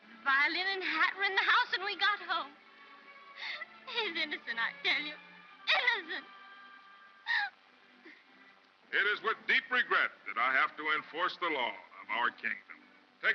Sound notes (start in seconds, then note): 7.2 sobbing